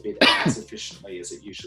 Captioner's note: coughs